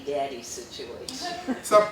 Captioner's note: laughter